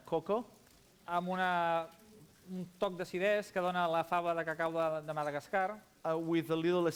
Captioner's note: non-english speech